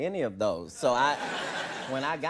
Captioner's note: audience laughing